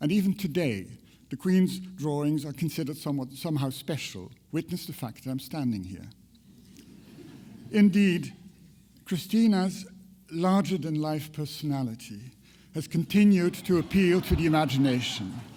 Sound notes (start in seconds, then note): 6.9 audience chuckles; 15.3 audience laughter